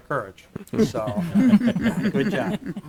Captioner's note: laughing